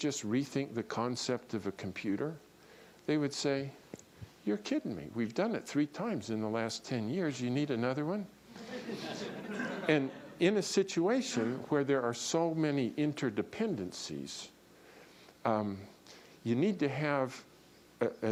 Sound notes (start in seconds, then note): 8.5 laughter